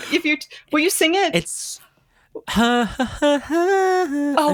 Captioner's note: vocalizing